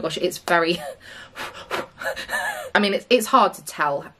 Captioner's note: blows